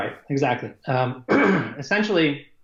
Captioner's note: coughs